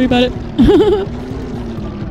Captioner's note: laughter